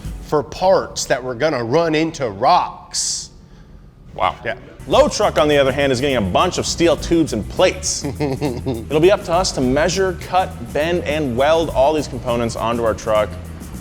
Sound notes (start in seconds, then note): 7.8 chuckles